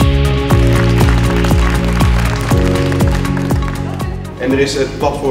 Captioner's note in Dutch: applaus